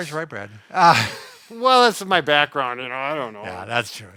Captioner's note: laughs